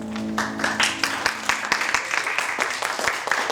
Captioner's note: applause